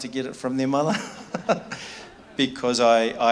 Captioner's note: laughs